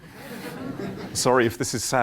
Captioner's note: laughter